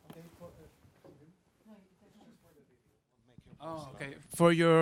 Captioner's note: people chattering